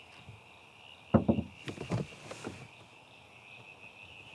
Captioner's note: soft tapping